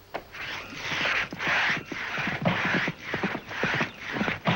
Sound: saw blade scraping

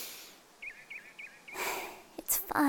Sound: inhale; exhale

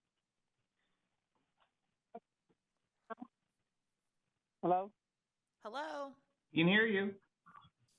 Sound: silence

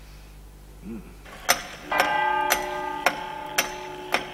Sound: clock ticking and chiming

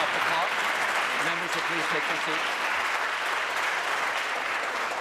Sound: applause

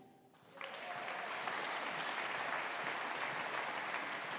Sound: audience applauding

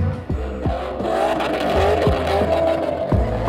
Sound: engine roaring

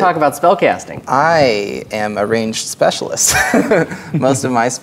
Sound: chuckles

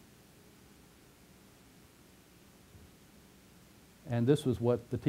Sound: pause

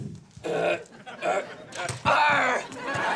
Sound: grunting

